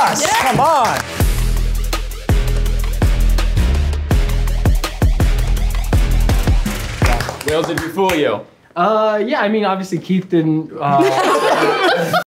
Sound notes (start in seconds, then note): 1.6 techno music; 10.9 audience laughs